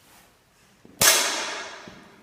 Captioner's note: kapow